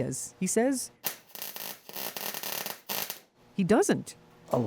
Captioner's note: soldering iron crackles